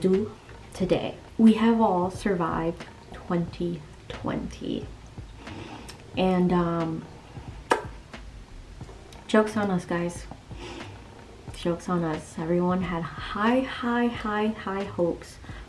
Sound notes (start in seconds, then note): 7.6 smacks lips